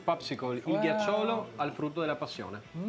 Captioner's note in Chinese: 義大利文